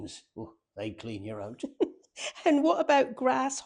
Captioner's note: laughs